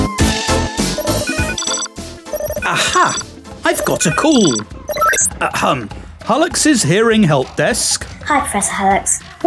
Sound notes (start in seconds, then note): 1.0 phone ringing